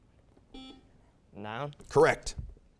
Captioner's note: beeping